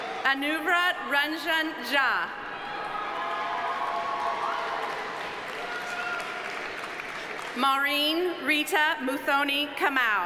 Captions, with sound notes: Anuvrat Ranjan Jha. (audience applauding) (audience cheering) Maureen Rita Muthoni Kamau.